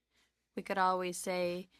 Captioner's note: speaking French